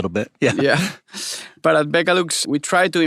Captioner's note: giggling